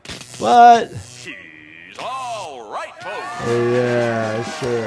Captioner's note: crowd cheers; triumphant music plays